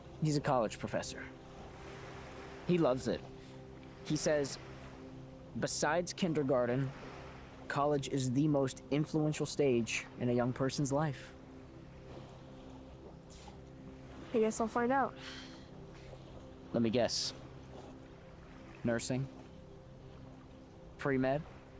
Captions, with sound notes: - He's a college professor. He loves it. He says, "Besides kindergarten, college is the most influential stage in a young person's life." - (inhales) I guess I'll find out. (exhales) - Let me guess. Nursing, pre-med?